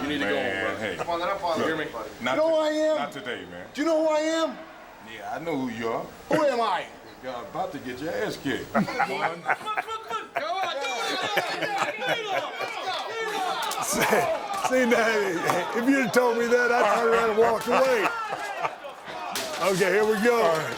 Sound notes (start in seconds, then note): 8.7 both laughing; 13.9 glass shatters